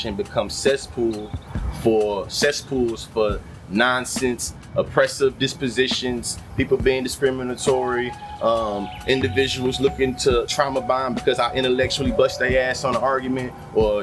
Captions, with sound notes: becomes cesspool for cesspools, for nonsense, oppressive dispositions, (Birds Chirping) people being (Birds Chirping) discriminatory, individuals looking to trauma bomb because I intellectually bust their ass on an argument,